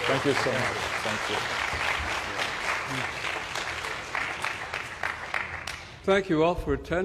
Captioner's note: applause